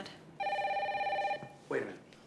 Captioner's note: phone rings